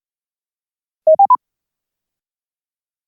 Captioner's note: camera beep